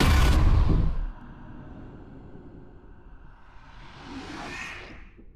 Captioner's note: car thudding; monster rasping softly